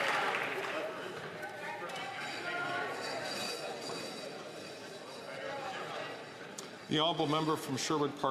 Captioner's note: some Applause